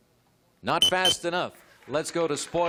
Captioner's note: beeps